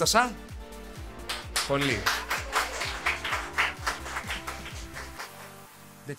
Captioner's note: applause